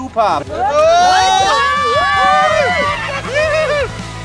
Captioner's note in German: Alle kreischen, jubeln; Lebhafte Musik